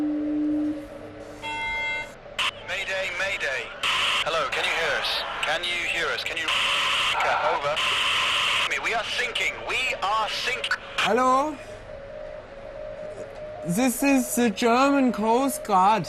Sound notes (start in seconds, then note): 1.4 beeps; 7.1 staticky buzzing